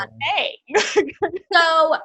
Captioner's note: laughs